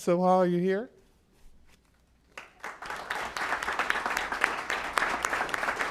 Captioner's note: applause